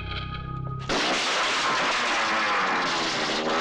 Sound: motorcycles Engine Starting

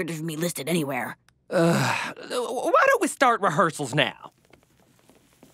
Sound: sighs

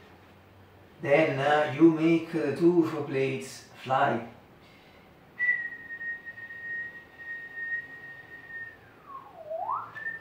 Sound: whistle

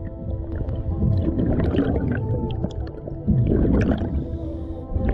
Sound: SCUBA bubbles gurgle

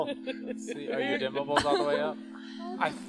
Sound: scientists chuckling

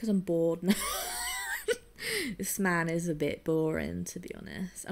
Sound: wheezes

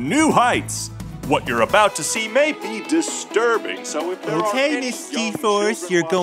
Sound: voice fading out

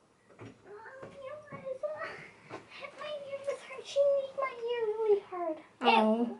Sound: soft voice of child telling on sibling

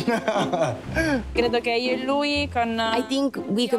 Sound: non-english speech

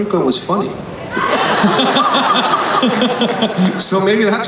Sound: everyone laughs

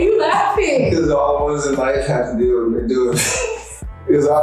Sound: laughing

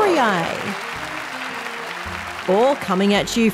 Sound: applause

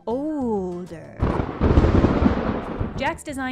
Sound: thunder clash

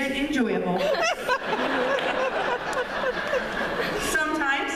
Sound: laughter

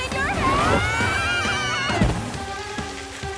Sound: screaming

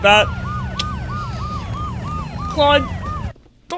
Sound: police sirens

